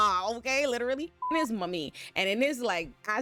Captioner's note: beep